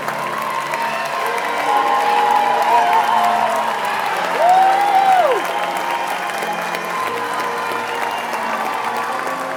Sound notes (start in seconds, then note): 5.1 all cheering and applauding